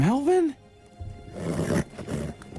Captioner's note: donkey noises of disapproval